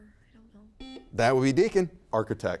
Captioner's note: buzzer beeps